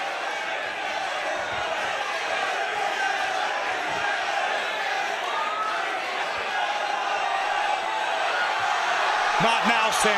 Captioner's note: crowd chatter